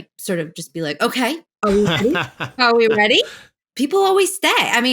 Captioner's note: laughter